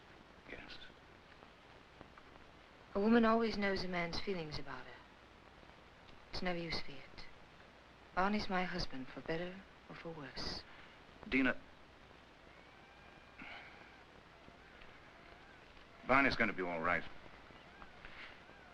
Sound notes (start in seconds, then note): 13.3 Viet sighs